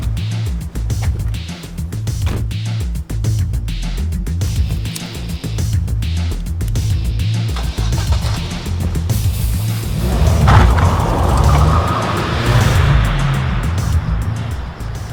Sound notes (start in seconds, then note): 2.2 trunk door closing; 4.6 lighter flicking open; 7.5 car starting and peeling away